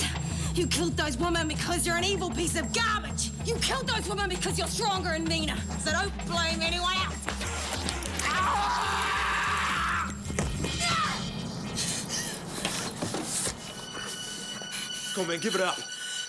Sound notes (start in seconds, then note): 8.1 Graham screams; 10.7 Jodie yells